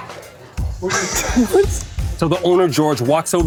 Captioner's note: laughter